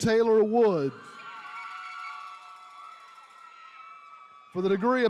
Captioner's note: attendees cheering